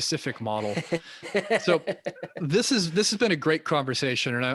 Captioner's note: laughing